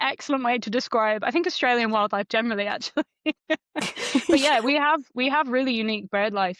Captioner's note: laughs